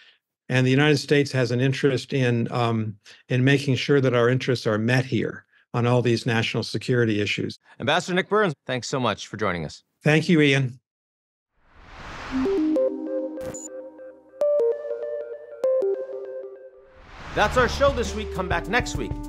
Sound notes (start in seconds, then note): 11.7 screen whooshes; 12.4 bright music